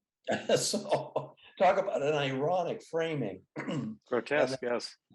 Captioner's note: laughs